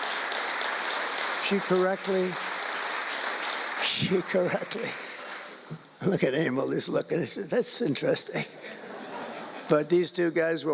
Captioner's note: laughter